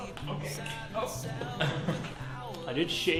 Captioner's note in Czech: nervózní smích